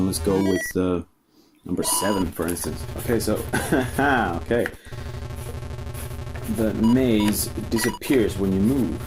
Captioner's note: hahaa!